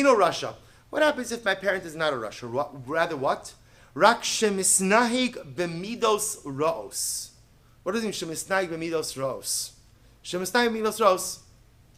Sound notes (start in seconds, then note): 0.1 Hebrew; 9.2 Hebrew